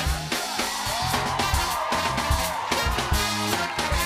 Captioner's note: cheers and applause